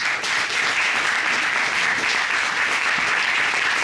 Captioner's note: applause